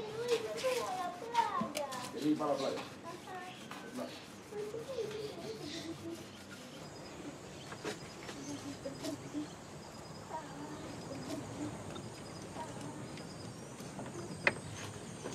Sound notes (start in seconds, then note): 6.9 birds and insects sounds on background